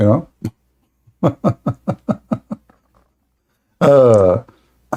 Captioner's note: Ketawa